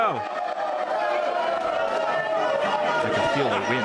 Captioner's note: crowd screaming loudly